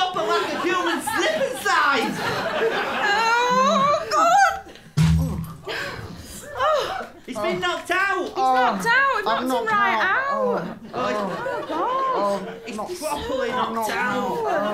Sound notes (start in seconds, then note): 2.2 laughter; 4.9 donk